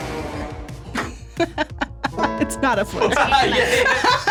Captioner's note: tense music; laughs